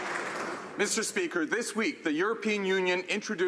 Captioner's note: some Applause